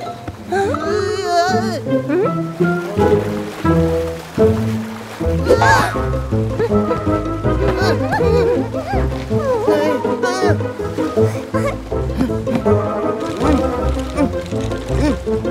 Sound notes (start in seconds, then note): 4.1 sound of the sea; 5.4 screaming